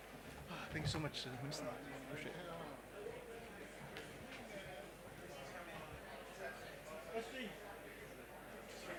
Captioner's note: background chatter